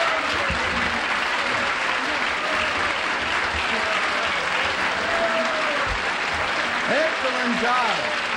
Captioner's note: applause